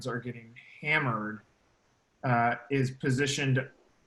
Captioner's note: laughing